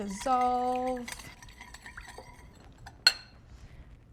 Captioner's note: clinking